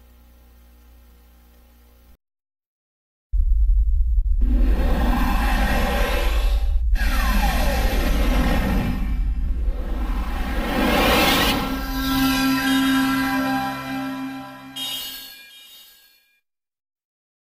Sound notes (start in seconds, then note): 3.3 32-bit console startup sounds; 11.2 digitally-synthesized music and twinkling